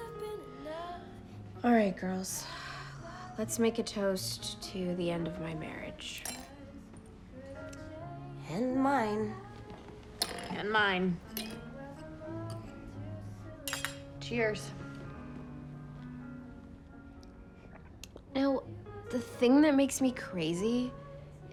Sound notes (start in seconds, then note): 6.2 ring clinks; 11.4 clink; 13.6 glasses clink; 13.6 clink